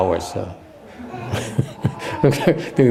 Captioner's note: laughter